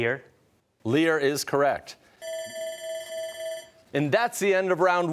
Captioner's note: timer sounding